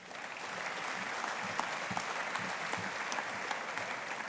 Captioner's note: audience applauding